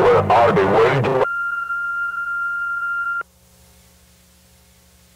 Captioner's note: phone bleeps